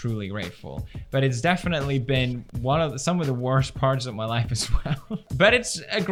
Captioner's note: laughs